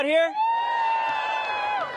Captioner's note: cheers and applause